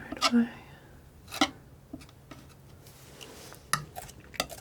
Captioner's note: scratching